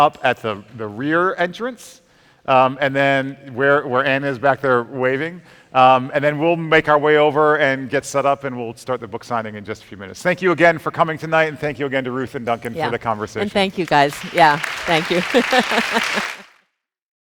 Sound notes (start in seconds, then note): 14.8 chuckles; 16.0 audience applauding